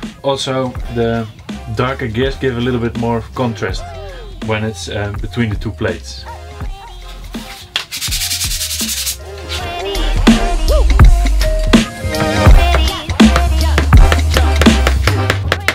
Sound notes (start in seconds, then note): 7.8 sanding; 13.1 pounding